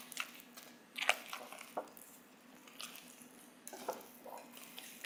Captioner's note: mixture rustling